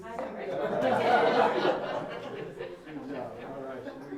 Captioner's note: laughing